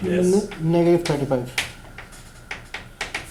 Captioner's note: voiceover